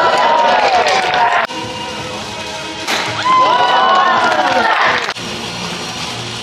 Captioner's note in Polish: Aplauz